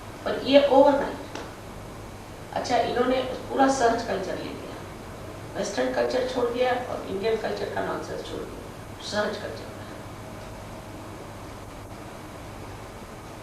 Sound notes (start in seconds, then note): 2.7 hindi